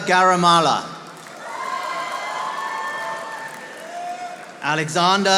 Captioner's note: audience applauding